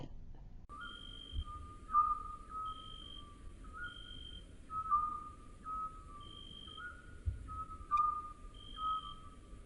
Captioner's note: owl hoot calls